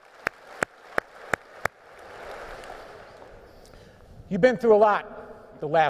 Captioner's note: applause